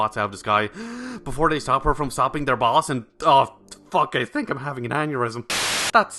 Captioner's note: deep breath